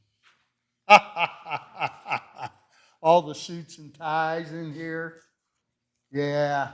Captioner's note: laughs